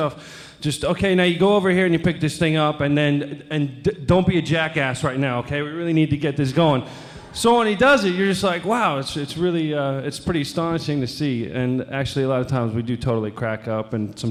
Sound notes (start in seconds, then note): 6.6 audience laughing